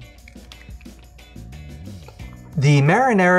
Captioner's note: crunching